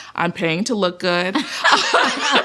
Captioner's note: laughter